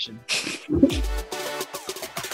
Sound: laughing; upbeat music

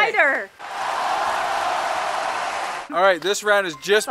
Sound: crowd cheering and clapping

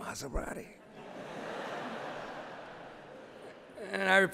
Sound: laughter

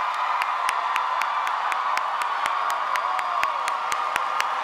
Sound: audience cheering

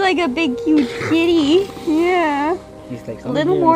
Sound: rocky grunting

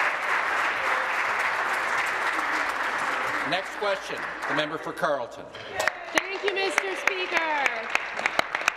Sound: applause

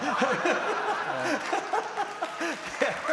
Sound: laughter

